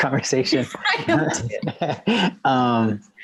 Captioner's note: laughter